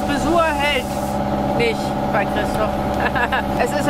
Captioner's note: laughs